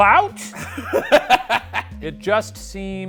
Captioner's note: laughing